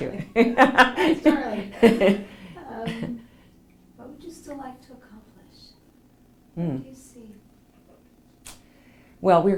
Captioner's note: laughs